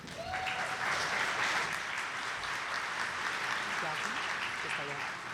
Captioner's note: audience applauding